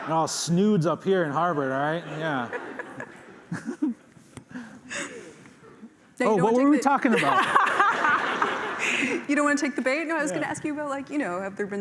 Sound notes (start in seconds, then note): 1.8 laughter; 7.1 laughter